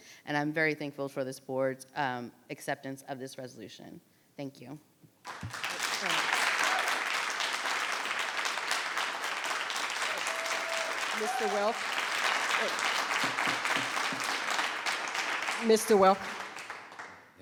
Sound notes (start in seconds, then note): 5.7 people clapping